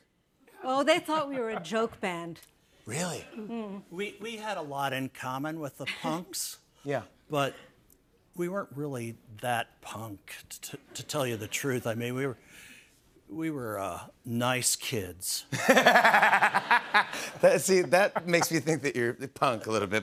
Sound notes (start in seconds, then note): 15.5 laughter